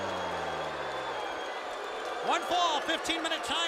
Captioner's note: crowd cheering